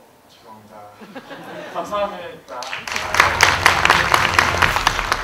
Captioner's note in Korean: 박수